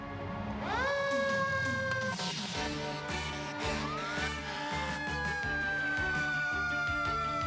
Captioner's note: siren wailing